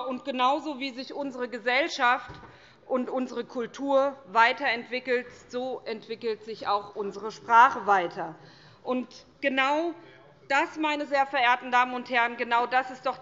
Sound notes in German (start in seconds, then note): none